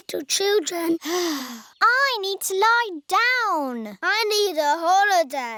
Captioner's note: sighs